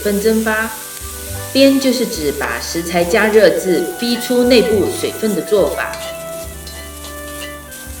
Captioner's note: stirring